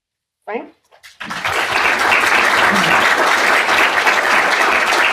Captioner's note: audience applauding